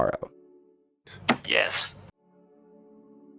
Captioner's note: button press